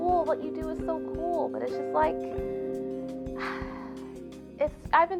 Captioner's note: sigh